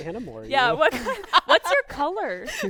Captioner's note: laughs